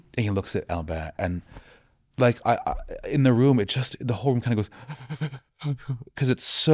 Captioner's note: sobbing